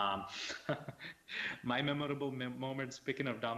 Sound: laughs

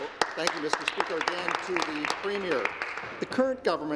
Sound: applause

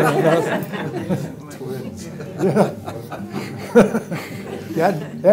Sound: laughter

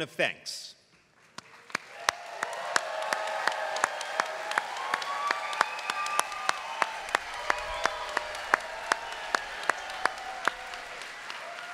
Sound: applause

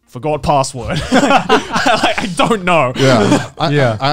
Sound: both chuckling

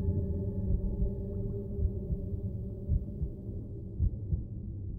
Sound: heartbeat thumping

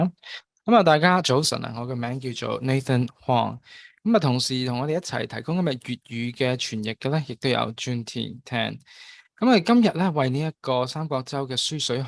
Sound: Cantonese

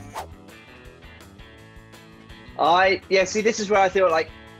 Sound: upbeat trumpet music; swooshing; upbeat country music

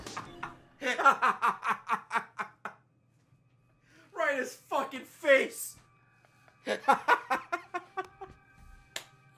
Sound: laughs

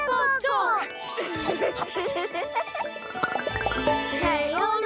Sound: laughing

